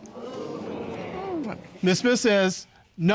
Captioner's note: audience groaning